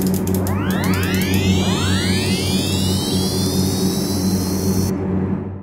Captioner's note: multiple phasers charging up